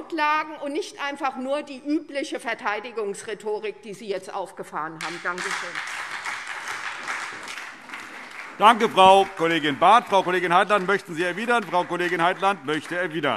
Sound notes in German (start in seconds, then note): 6.5 Beifall SPD